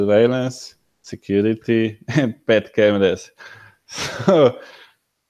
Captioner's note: laughs